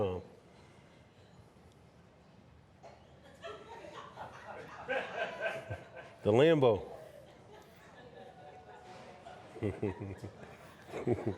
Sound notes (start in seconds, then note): 3.5 audience laughing; 6.7 chuckling